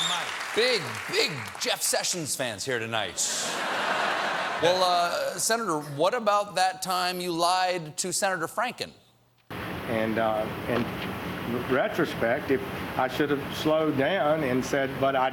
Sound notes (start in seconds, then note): 3.2 laughter